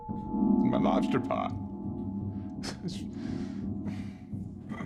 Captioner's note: mutters